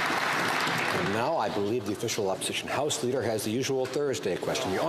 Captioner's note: some Applause